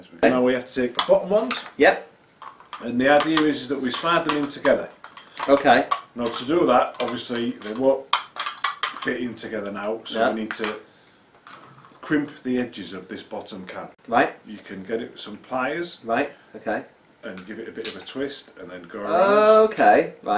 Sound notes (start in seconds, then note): none